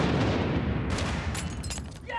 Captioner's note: lightning cracks; shouting